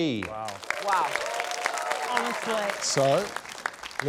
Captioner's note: cheering, applause